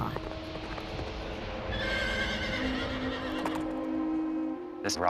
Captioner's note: horse neighs